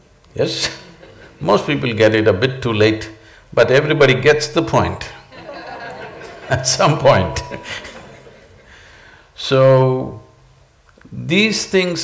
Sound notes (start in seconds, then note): 5.2 laughter; 8.6 laughs